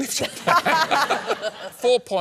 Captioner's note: laughter